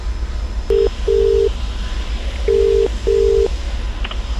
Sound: phone ringing

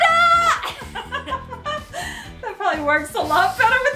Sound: laughing

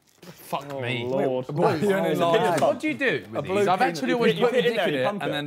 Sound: group chattering

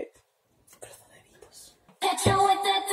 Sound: whipers

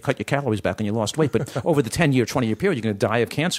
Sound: laughter

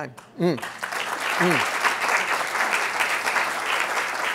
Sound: applause

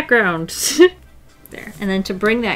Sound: laughs

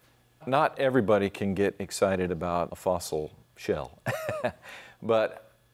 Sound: laughs

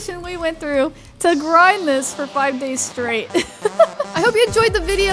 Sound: laughs

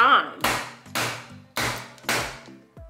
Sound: bangs

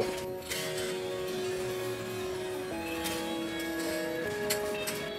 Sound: reverse DJ scratch

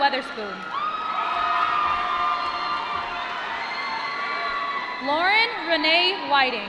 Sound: applause

